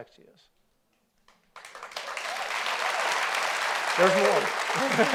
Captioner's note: audience applauds